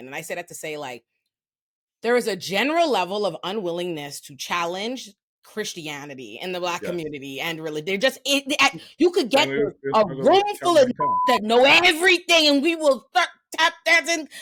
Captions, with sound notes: And then I said that to say like, there is a general level of unwillingness to challenge Christianity and the Black community and religious, they're just, you could get a racial and (beep) that know everything and we will tap that in